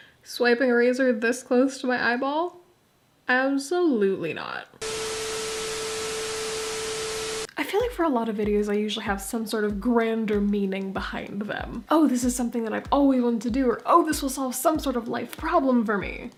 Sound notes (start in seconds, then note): 4.7 beep; 4.8 static